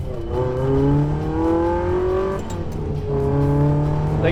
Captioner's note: engine roars